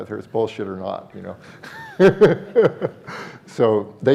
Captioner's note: laughs